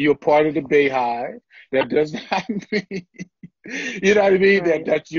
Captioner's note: laughter